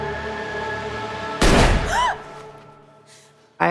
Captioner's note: gun fires; Whitney gasps